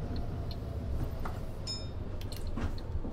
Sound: bell Dings

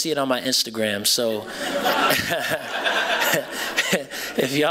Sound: laughter

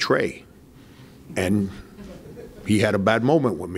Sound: man in audience laughs

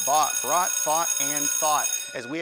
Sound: class bell

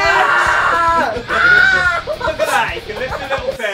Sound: Vik screaming

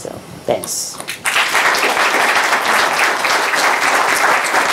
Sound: audience clapping

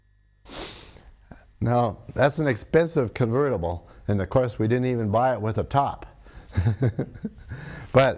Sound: laughs

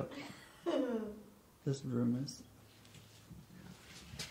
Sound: laughs

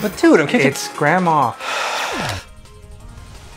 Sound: sighs

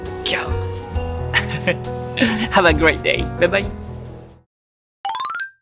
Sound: laugh

